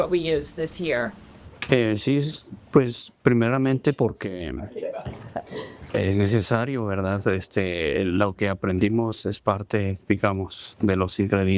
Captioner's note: speaking spanish